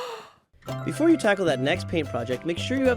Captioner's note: gasp